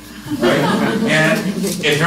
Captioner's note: laughter